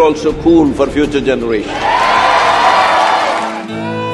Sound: cheering/Applause

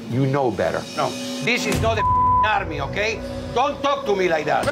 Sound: beep

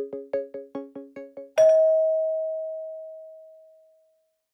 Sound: bell dings

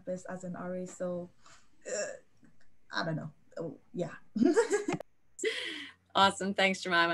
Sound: chuckles

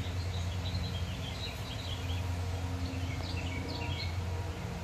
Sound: birds are chirping away loudly

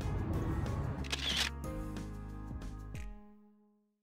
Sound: shutter clicks

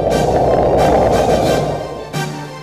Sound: blows; gasps

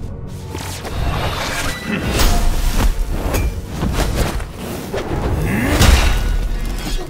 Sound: character grunting; sword whooshing

